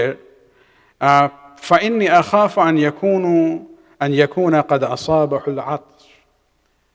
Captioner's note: arabic